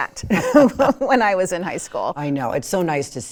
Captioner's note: laughs